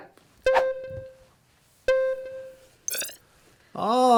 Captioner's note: phone Beeping